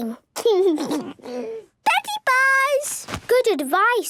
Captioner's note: laugh